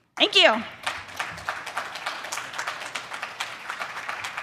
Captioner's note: audience clapping